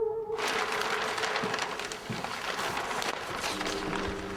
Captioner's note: plastic rustles